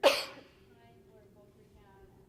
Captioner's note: coughing